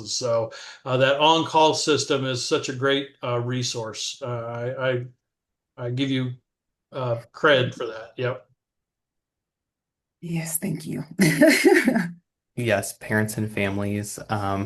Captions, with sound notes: So, that on-call system is such a great resource. I, I, I give you credit for that. Yep. - Yes. Thank you. [laughter] - Yes parents and families,